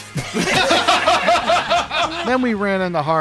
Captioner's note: laughter